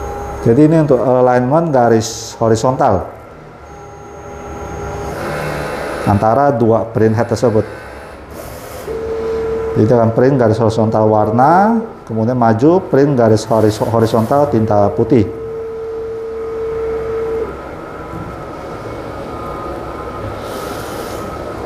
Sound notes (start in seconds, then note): 0.1 printer machine noise